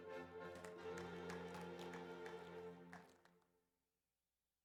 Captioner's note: audience applauds